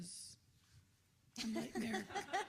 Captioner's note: laughter